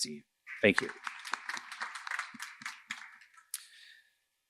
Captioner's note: applause